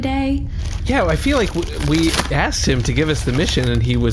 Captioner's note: opening a bag of chips